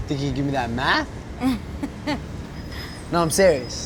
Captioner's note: chuckles